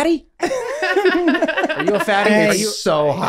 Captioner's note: group laughing